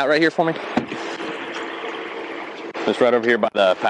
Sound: car door creaks

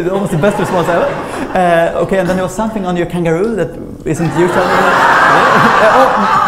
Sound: laughter

